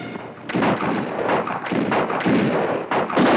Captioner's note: guns fire